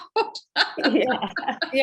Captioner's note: laughs